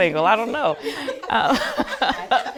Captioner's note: women laughing humorously